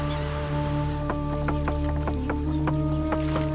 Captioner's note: sharp clacks